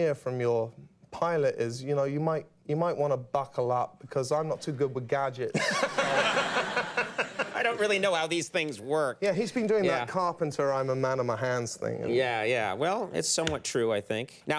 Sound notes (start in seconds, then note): 5.5 Conan and audience laugh